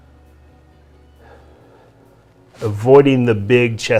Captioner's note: exhales